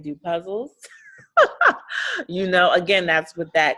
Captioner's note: laughing